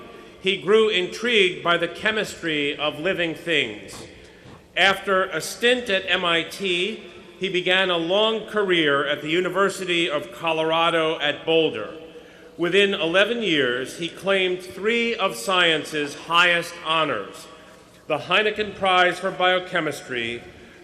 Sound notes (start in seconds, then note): none